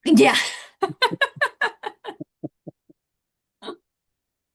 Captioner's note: laughter